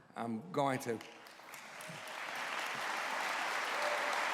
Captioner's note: applause